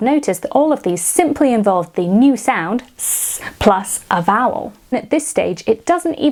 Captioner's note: hissing